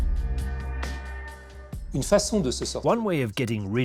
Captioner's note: non-english speech